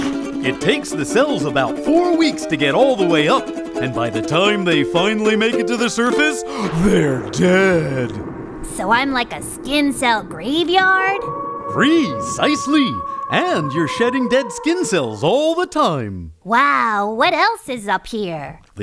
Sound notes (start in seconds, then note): 10.7 wolf howl